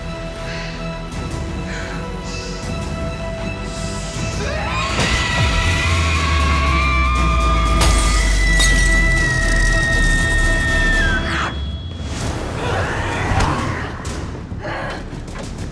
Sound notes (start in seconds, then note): 0.1 suspenseful music intensifies; 4.4 Lydia screaming; 8.5 light bulbs shattering; 12.9 Malia shouts